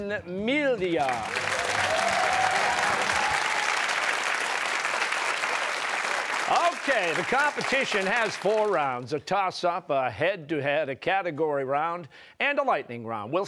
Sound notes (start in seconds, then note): 1.0 cheers and applause